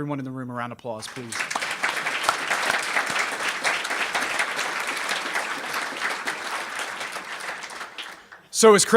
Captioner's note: clapping